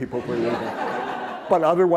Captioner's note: laughter